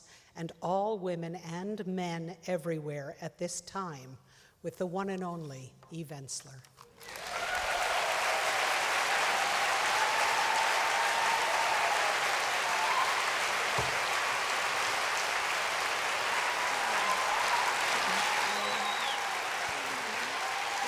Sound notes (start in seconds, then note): 7.1 applause